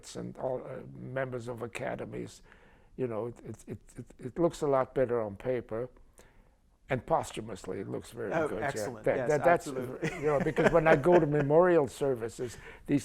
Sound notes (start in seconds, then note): 9.8 laughter